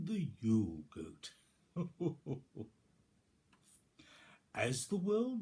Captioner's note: chuckles